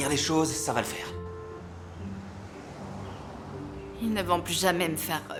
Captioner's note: birds chirping